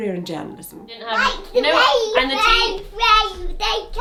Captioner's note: babbles excitedly